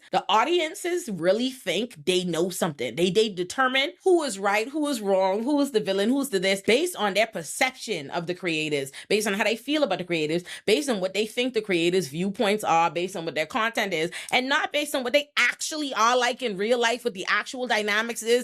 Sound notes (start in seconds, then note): none